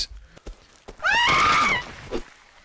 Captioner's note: woman screams